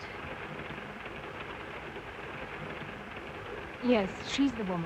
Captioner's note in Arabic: صوت خشخشة القطار